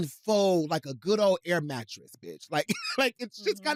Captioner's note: laughs